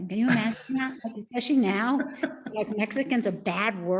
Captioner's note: laughing